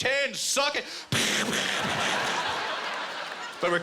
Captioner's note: imitating guns firing